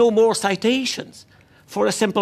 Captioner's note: speaking French